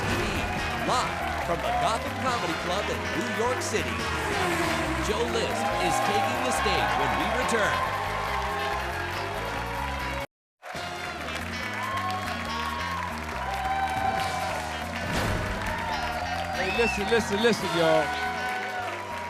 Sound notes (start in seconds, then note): 3.9 car whirring; 8.4 audience clapping and cheering; 10.7 upbeat jazz music begins